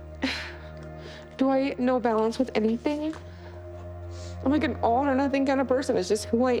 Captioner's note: sighs